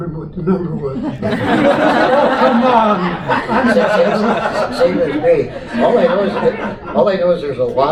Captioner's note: audience Laughter